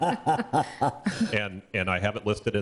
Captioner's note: group laughing